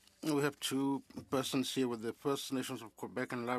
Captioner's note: speaking French